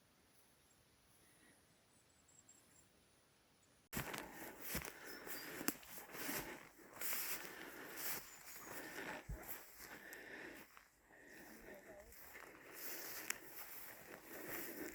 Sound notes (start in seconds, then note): 6.3 footsteps